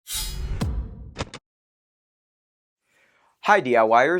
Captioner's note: sound effect